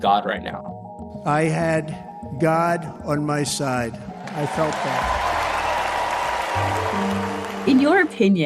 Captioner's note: cheering and applause